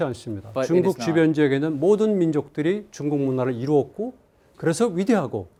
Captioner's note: speaking in Korean